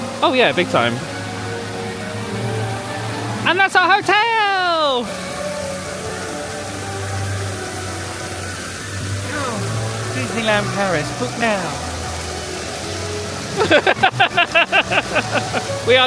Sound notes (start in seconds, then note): 5.7 fountains gushing; 5.7 sweeping orchestral music; 13.5 laughing